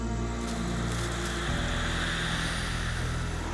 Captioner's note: wind howling